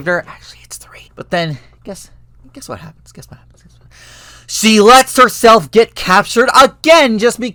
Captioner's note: gasp